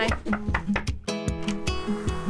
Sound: knock kock

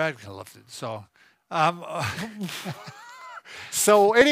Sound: both laughing

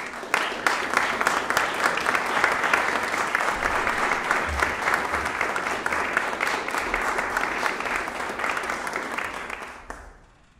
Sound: applause

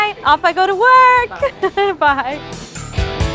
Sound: laughing

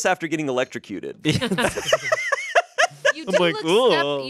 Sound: everyone laughs

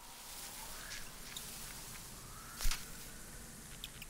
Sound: crushing snow; chirping

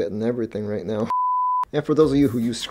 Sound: beep

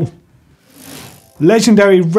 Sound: bike chain whirring

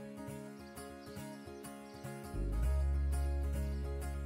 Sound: upbeat country music; birds chirp

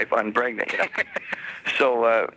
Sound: laughing

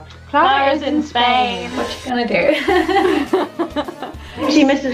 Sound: she and off-camera laugh

